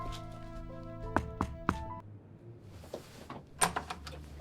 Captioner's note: knocking